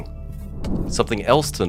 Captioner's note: air whooshes